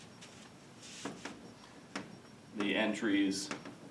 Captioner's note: chalk tapping